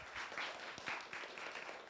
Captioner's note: applause